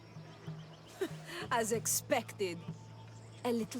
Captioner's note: laugh